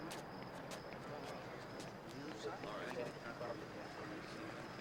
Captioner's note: crickets chirping